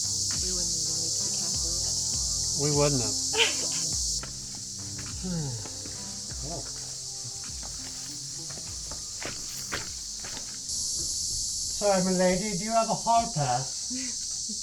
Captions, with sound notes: We wouldn't even be at the castle yet. We wouldn't have. (Laugh) (Monty Python Voice) Sorry me lady. Do you have a Hall Pass? (Giggle)